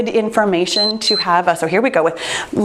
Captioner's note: timer beeps